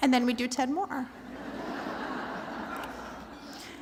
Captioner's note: laughter